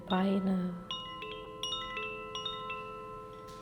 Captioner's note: gentle chimes